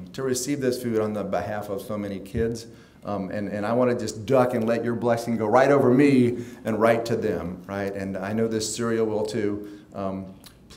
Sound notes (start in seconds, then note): none